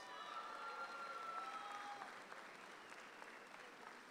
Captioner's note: audience applauds